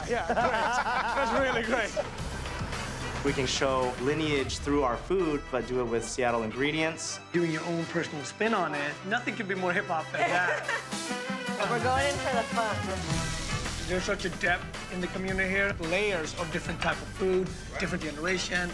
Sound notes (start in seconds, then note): 0.0 laughter; 10.1 laughs